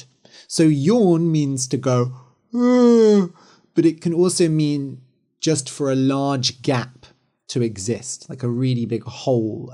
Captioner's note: yawns